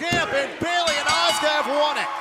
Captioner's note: bell ringing